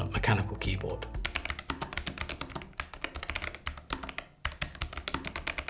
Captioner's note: keyboard clicking